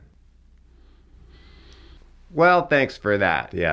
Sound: Dumbledore inhaling

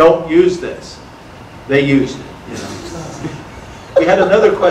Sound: audience laughter

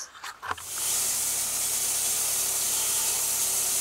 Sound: saw revving

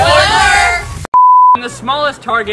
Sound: beep

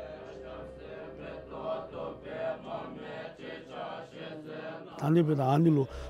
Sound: Bhutanese people praying; speaking in foreign language

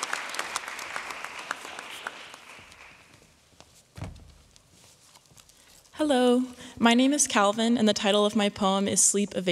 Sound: applause

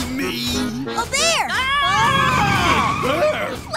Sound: screaming

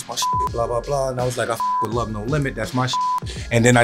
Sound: beeps

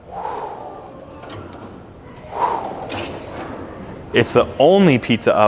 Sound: imitating swooshing

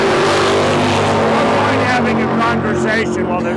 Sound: LOUD, I mean, REALLY LOUD CAR ENGINES

